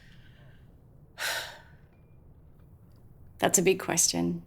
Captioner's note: sighs deeply